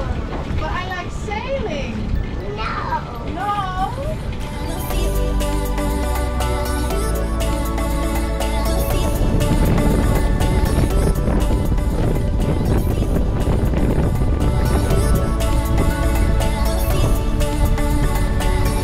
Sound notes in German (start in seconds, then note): 5.0 helle Tanzmusik; 11.6 Windrauschen